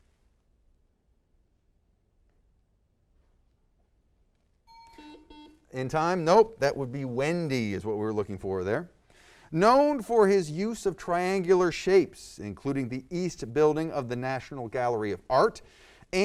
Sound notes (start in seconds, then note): 4.7 ding; 6.2 buzzer